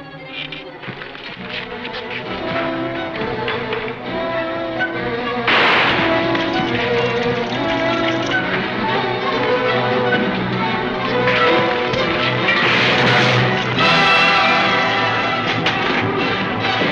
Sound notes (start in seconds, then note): 0.2 squeaking boards; 5.4 gun fire